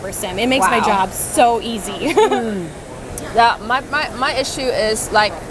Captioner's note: laughs